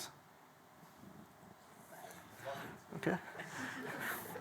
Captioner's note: laughter